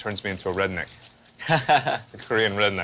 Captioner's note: chuckles